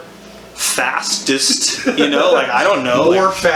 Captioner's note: laughs